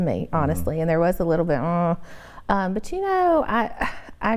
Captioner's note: groans